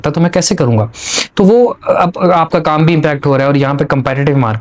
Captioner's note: nasal sound